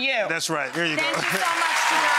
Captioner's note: crowd clapping